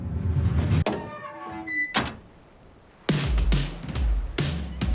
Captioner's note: door creaks